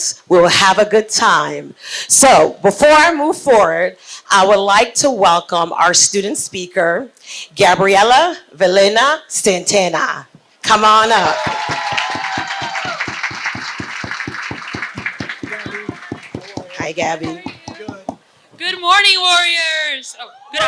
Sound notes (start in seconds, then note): 11.3 applause